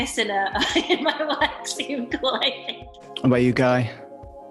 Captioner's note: laughing